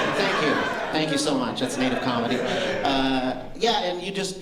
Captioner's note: laughter